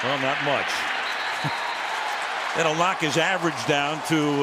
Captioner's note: whistle blows